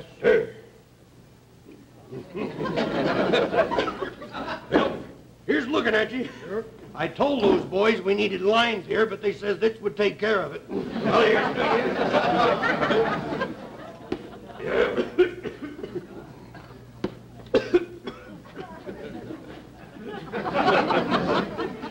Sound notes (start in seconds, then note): 0.1 audience laughter; 8.8 audience laughter; 12.3 coughs; 18.4 audience laughter